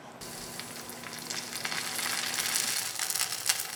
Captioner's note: oil bubbling